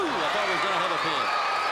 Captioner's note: crowd cheering